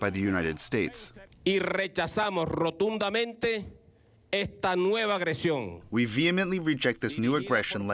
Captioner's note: through translator